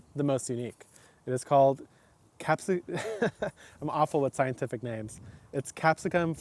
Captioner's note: laughing